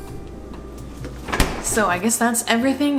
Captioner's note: fridge closes